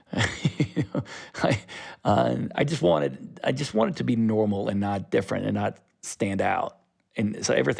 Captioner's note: laughter